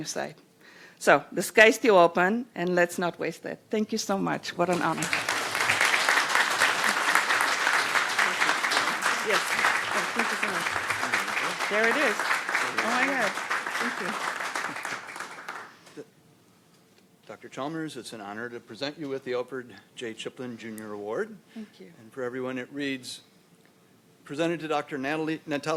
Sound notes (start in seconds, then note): 9.3 applause